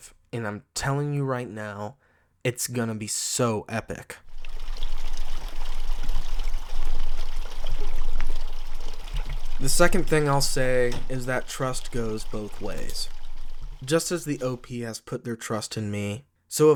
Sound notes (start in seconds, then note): 4.6 water burbling